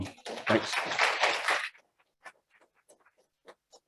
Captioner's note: audience claps